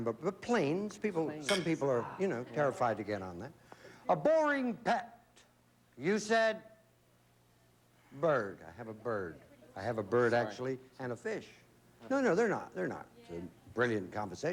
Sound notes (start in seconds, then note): none